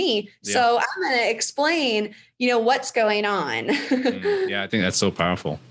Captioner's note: laughs